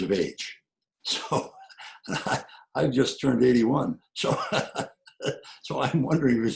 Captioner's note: laughs